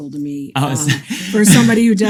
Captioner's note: laughs